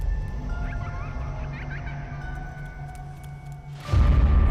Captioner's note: children's laughter